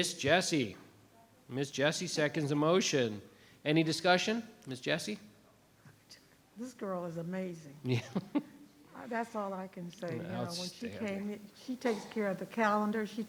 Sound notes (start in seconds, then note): 7.8 laughs